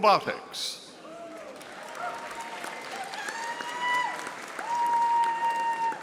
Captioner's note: audience applauding